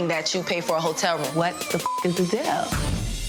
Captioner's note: beep